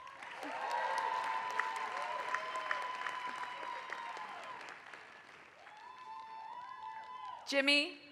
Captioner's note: applause